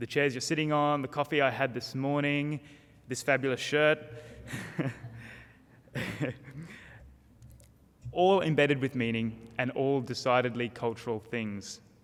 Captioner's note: laughs